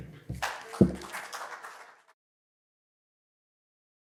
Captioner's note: clapping